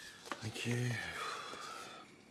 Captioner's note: sighs